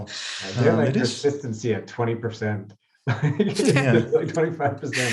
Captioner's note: chuckles